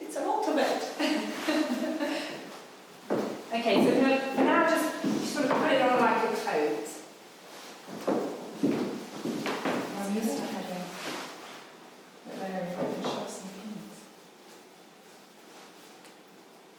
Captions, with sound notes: there's a lot of it. (laughing) - Okay, so now, just put it on like a coat. (women murmuring)